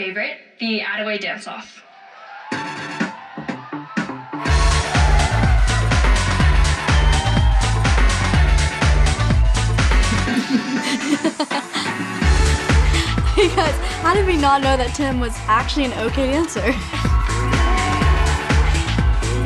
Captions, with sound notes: the Attaway dance off. (upbeat music) (laughing) - You guys how did we not know that Tim was actually an okay dancer.